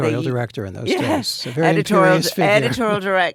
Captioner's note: laughs